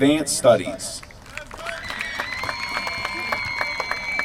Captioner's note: applause